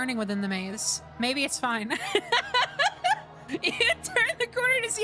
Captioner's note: laughter